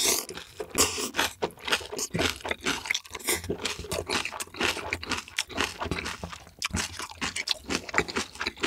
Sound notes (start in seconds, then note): 1.2 crunching